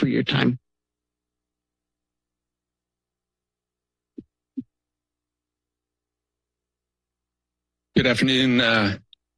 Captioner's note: silence